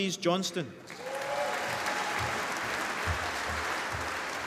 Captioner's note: applause